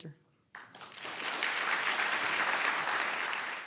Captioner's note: applause